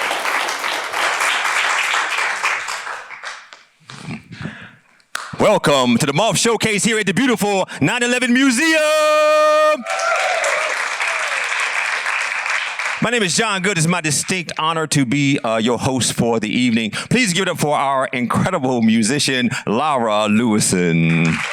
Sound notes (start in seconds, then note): 9.6 applause and cheering